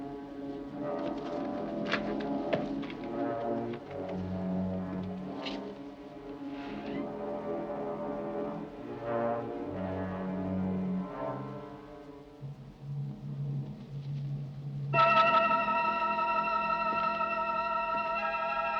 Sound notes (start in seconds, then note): 6.7 door creaking; 15.0 tense suspenseful music